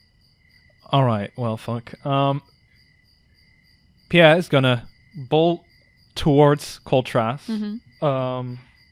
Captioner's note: sighs